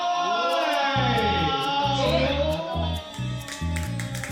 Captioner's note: cheering